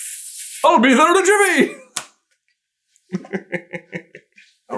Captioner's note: laughs